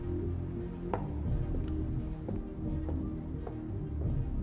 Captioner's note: footsteps clicking